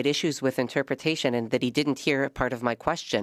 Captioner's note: speaking French